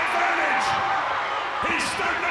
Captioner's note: audience cheers